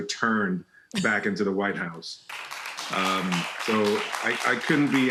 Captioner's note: audience applauding